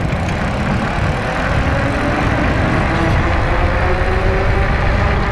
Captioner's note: wheel pattering